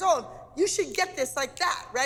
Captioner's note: snapping